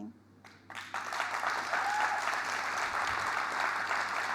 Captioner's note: audience applauding